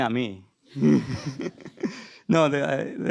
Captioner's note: laughter